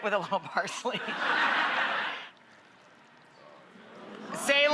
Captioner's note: audience laughs